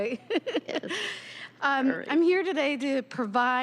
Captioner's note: laughter